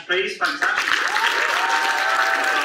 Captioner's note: audience cheers and applauds